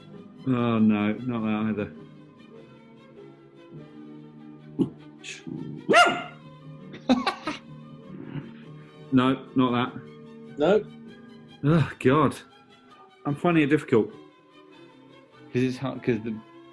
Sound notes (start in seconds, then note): 5.4 dog grunts; 5.8 dog barks; 6.9 laughs